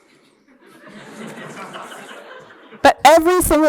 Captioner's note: laughter